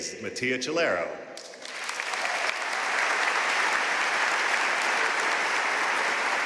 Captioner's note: audience cheering and applauding